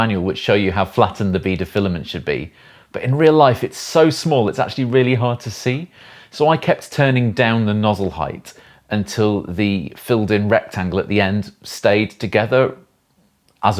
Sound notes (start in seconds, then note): none